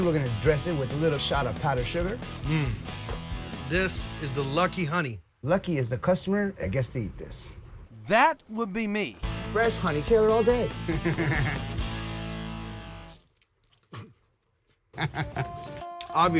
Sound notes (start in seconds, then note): 10.9 both chuckle; 12.6 crunching; 14.9 chuckle